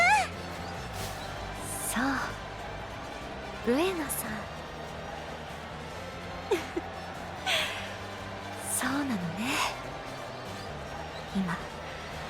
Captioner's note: chuckles